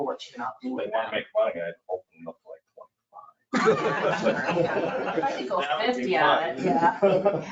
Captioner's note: all laughing